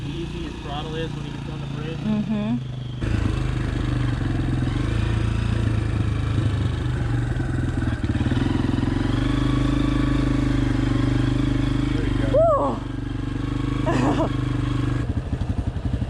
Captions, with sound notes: See how easy his throttle is when he gets on the bridge? - Mhmm. (bike running) - There ya go. - Whoa! (laughing)